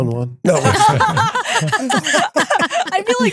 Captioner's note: laughing